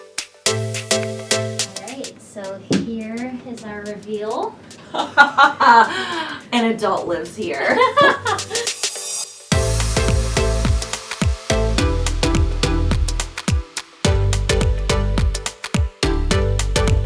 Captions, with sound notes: - All right. So here is our reveal. - (laughing) An adult lives here. (laughing) (upbeat music)